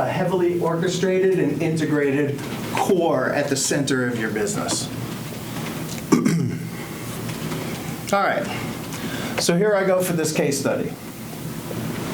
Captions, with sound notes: heavily orchestrated and integrated core at the center of your business. (clears throat) All right. So here I go for this case study.